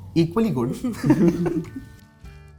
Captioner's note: giggles